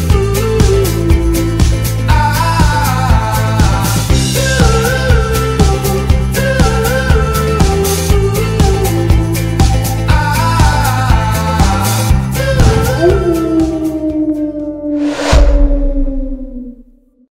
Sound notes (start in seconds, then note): 12.5 coyote howl